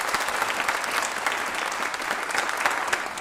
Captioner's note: applause